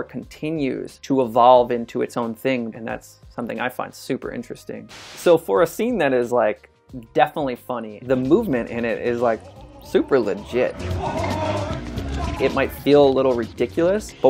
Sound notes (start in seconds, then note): 4.9 static noise; 10.7 men yelling